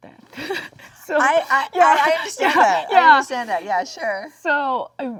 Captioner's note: Jung laughs